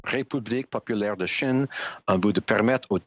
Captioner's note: speaking French